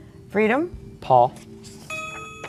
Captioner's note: ding